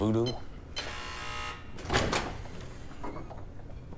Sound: buzzer

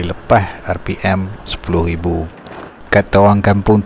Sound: engine speed

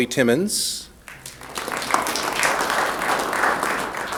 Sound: applause

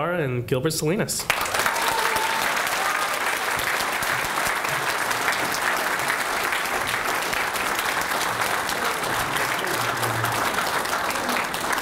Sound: applause

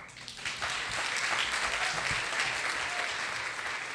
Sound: audience applause

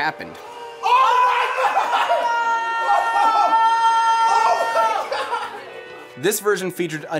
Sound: cheering

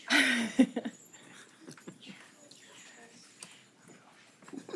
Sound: person laughing

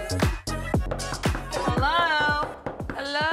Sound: knocking at the door

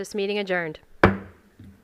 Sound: gavel hitting dais

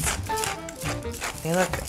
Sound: crackling

